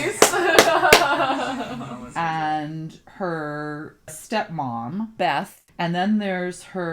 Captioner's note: clapping, laughing